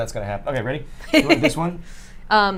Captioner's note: chuckles